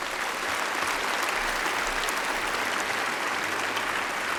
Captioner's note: applause